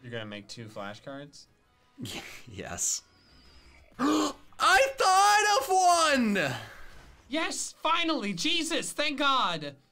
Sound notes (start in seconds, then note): 2.4 laughs; 3.9 gasps